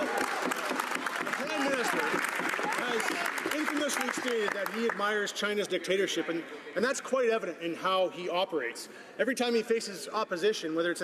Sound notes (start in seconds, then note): 3.7 some Applause